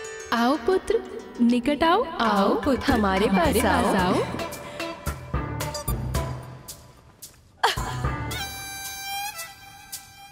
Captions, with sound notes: 'Come closer, Ganesha.' 'Come to me, Ganesha!' [laughs]